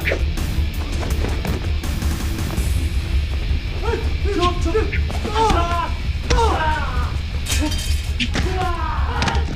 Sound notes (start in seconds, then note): 5.0 men grunting; 5.3 thudding